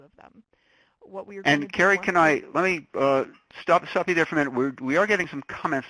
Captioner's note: voiceover